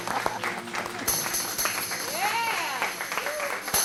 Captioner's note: group laughing; group clapping